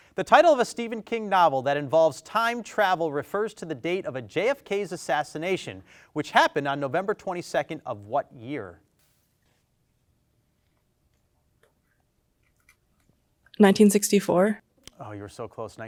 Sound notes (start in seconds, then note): 10.1 team whispers